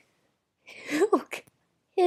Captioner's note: laughing